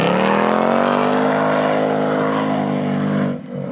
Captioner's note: engine roaring